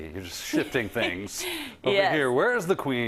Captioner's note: laugh